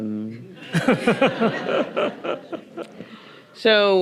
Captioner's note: everyone laughing